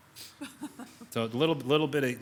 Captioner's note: woman laughing